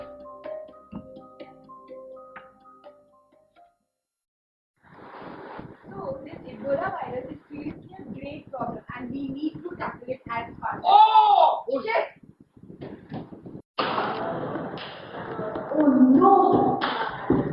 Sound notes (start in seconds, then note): 10.8 patient shouting